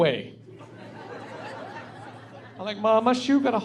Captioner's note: laughing